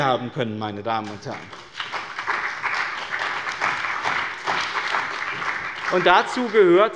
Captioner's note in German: Beifall bei dem BÜNDNIS 90/DIE GRÜNEN und der CDU